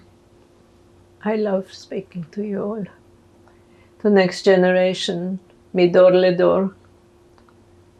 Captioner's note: hebrew